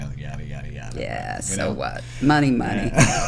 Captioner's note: laughter